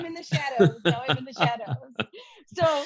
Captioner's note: laughs